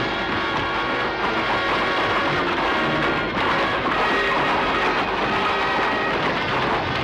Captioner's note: dramatic music; hooves thundering